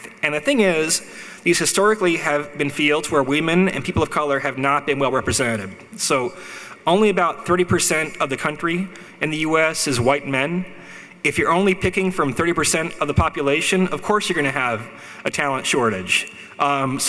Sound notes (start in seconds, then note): none